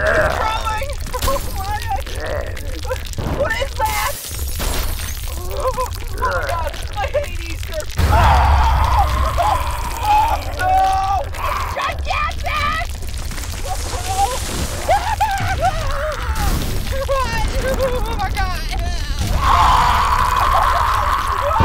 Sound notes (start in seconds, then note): 3.0 breaking glass sound; 7.9 crash sound; 8.0 screams; 16.3 crash/explosion sounds; 19.3 growls; 20.7 explosion sounds